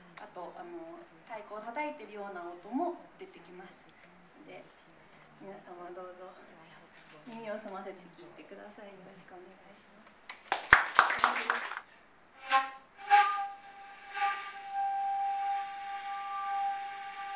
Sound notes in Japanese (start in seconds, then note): 10.2 拍手